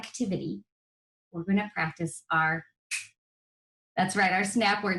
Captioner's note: snaps fingers